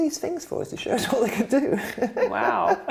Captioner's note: laughs